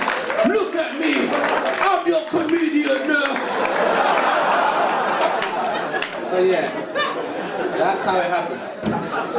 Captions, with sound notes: Look at me, look at me, I'm your comedian now! (audience laugh) So yeah. That's how it happened.